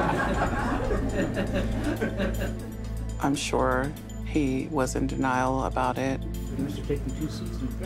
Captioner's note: laugh